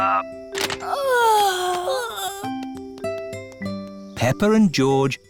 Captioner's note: peppa and george yawning